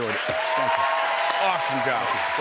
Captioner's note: cheers and applause